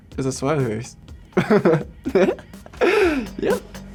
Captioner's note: laughs